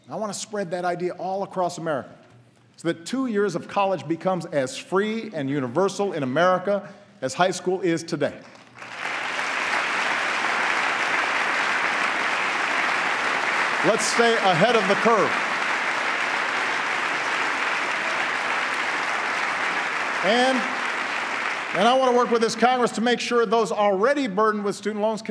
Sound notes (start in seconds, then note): 8.1 applause